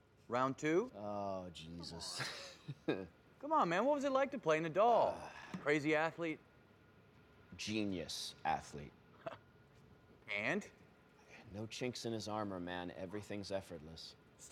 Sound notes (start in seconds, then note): 1.8 laughs; 5.2 Phillip sighing; 9.3 Marshall laughing